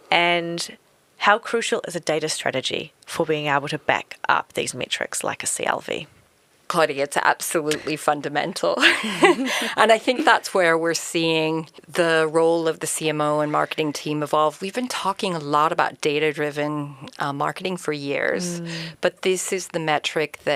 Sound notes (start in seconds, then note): 8.8 chuckling